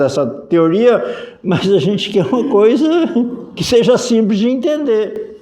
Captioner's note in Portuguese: risadas